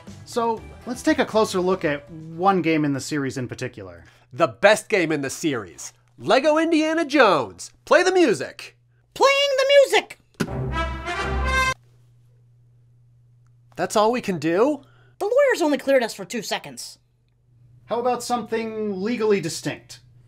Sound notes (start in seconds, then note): 12.0 silence